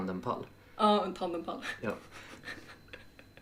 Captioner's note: both snickering